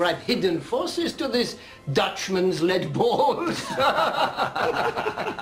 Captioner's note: laughs